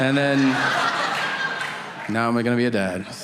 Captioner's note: audience laughing